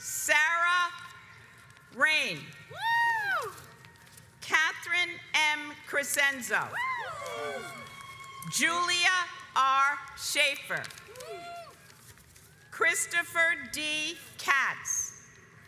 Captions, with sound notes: Sarah Rain. (audience cheers) Katherine M. Krazenzo (audience cheers) Julia R. Schaffer (audience cheers) Christopher D. Katz